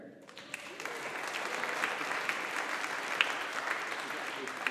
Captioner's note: audience applauding